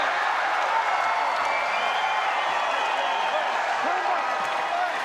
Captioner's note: crowd cheering